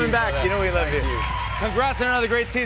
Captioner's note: cheers and applause